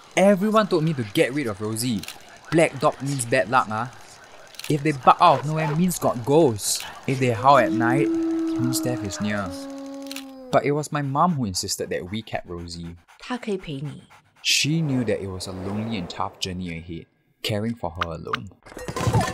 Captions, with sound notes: everyone told me to get rid of Rosie. “If they bark out of nowhere, means got ghost!” “If they howl at night, means death is near.” But it was my mom who insisted that we kept Rosie. [in Mandarin] Mum: She can keep you company. [in English] Narrator: She knew that it was a lonely and tough journey ahead caring for her alone.